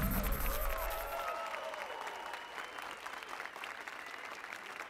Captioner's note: applause and cheers